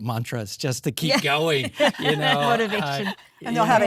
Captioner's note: all laughing